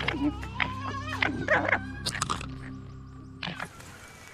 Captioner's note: screeching and yapping